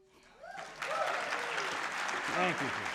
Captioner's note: audience applauding